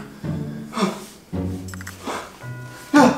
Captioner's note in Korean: 놀라는 탄성